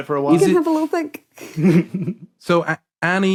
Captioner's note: snickers